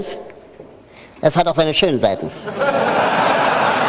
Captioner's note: laughter